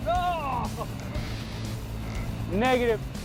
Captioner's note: laughing